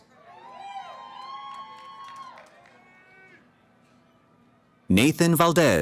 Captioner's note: cheering